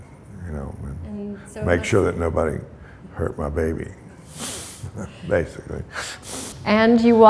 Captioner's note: chuckle